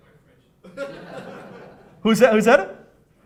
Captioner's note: people laughing